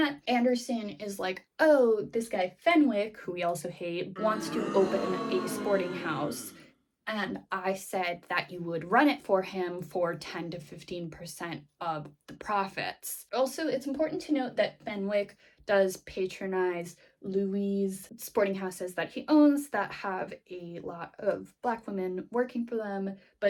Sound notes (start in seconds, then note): 4.2 boo